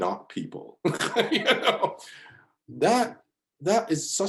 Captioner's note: laughs